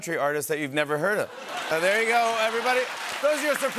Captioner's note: laughter and applause